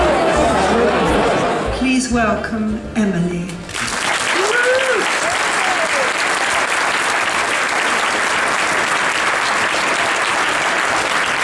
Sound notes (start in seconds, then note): 3.7 audience cheers and applauds